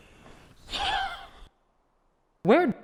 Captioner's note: chuckles